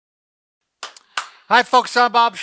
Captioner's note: clapping